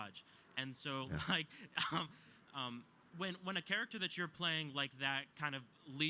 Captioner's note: chuckles